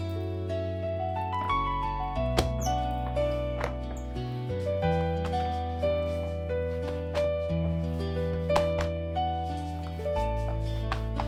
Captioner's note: folding